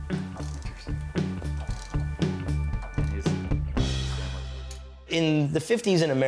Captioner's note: wrench clicking